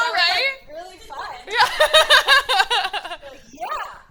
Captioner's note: laughing